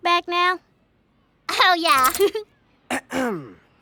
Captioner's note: giggles; clears throat